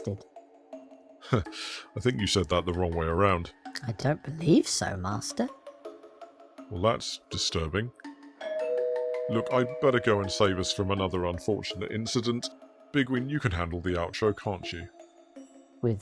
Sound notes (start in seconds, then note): 8.4 doorbell rings